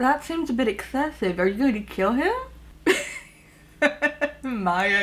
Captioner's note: laughs